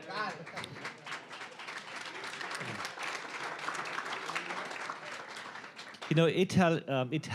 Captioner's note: applause